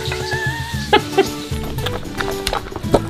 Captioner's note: laughing